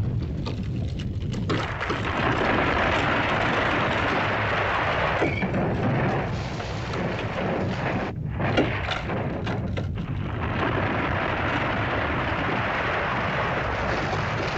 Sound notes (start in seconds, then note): 0.0 rocks clattering; 0.0 volcano rumbles; 1.5 rock crashing; 8.1 rumbling sound; 10.3 crashing sound; 14.3 rumbling & crashing sounds